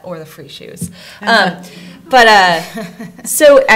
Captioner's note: soft laughter